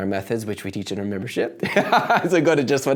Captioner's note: laughs